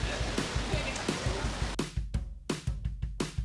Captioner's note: laughs